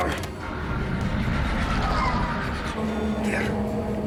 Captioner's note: tire squeal